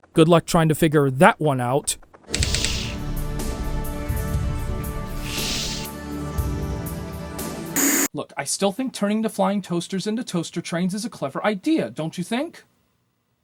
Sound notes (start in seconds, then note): 7.8 TV static